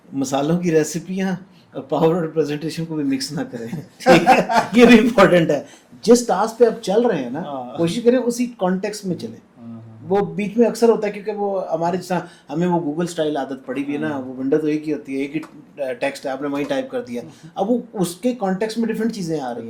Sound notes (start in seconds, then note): 3.6 laughter